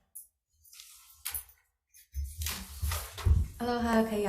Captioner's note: papers rustling